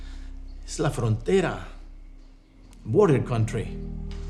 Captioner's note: speaking in foreign language